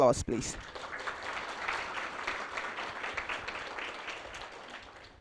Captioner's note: applause